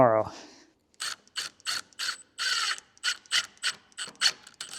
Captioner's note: machinery buzzing